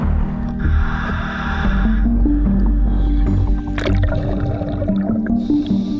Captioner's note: breathing through tube